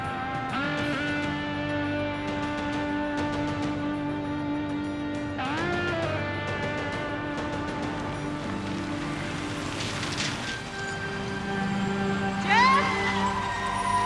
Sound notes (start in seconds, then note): 5.1 suspenseful music; 9.9 water splashing